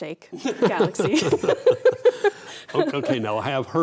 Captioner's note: both laughing